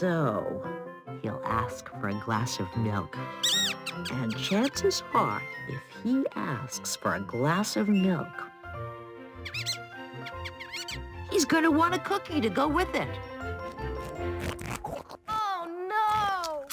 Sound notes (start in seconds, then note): 3.3 mouse squeaking; 9.4 mouse squeaking